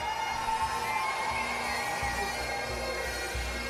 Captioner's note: cheers and Applause